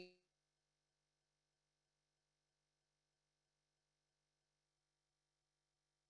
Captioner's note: audio drops